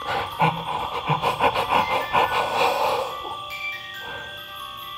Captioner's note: gasping repeatedly; music box chiming